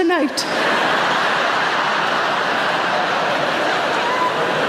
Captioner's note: audience laughs